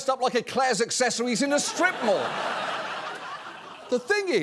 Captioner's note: audience laughs